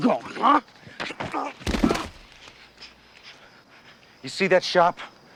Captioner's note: grunts